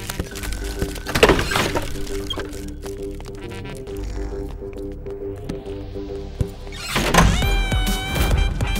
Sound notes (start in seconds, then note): 1.0 door opening; 6.7 door closing